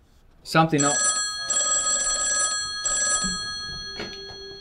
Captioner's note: phone ringing